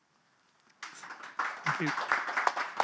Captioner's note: audience applause